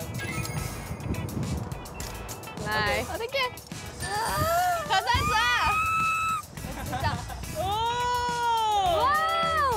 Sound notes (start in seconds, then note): 4.0 screams as she enters